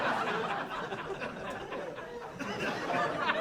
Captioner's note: laughing